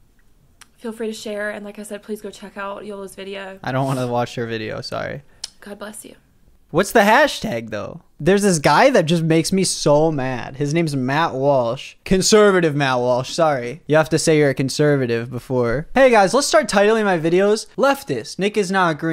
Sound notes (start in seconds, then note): 0.5 sighs, clicks tongue; 3.7 WOMAN sniffs; 5.6 clicks tongue